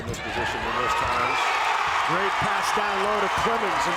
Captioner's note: crowd cheers